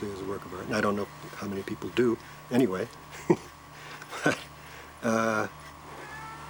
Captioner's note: chuckles